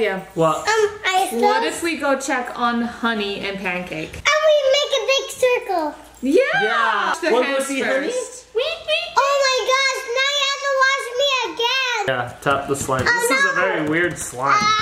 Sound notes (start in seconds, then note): none